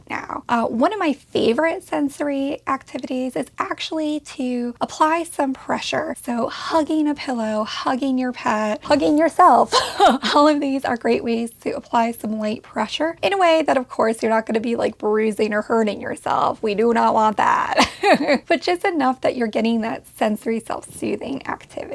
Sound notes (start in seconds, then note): 17.7 laughs